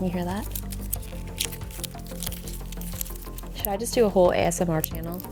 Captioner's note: plastic crackling